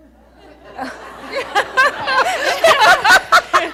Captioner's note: audience laughing